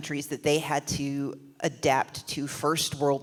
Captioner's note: none